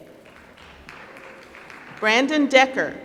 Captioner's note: applause